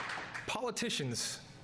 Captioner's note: applause